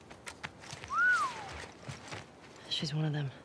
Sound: whistles

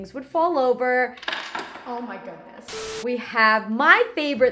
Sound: coins clatter

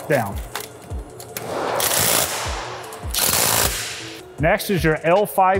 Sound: torque wrench buzzing

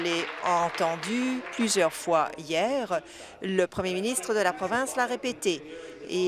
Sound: applause

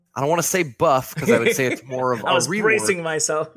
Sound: laughs

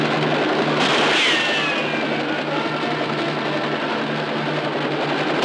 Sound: gunshot ricocheting

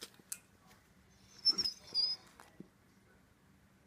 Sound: whines

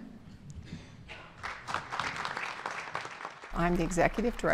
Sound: applause

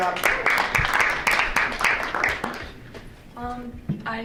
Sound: applause

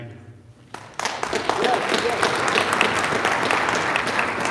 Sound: audience applauding

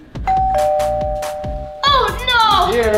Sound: doorbell rings

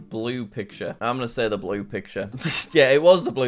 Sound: laughs

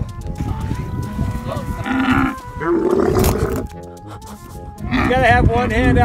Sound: camel continues grunting

